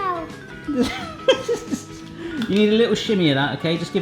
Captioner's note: laughs